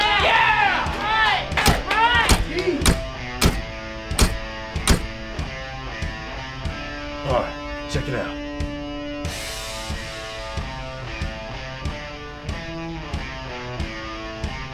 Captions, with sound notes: [APPLAUSE AND CHEER] [KNOCKING AT DOOR] Parr, CHECK IT OUT.